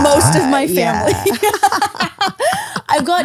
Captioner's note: laugh